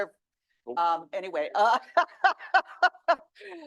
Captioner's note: laughs